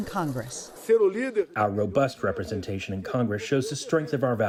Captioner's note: through translator